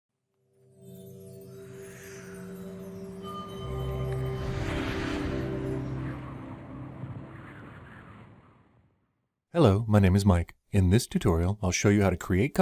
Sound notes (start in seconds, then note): 0.5 wind and music